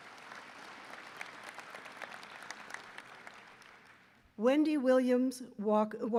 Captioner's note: applause